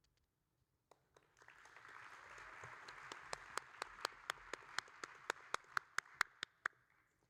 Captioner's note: audience and applauding